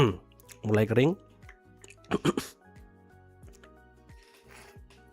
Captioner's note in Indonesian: berdehem